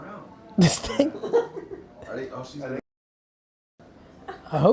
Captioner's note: laughing